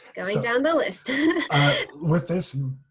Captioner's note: laughter